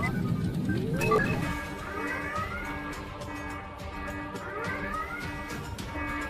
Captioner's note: alarms blare, dramatic music begins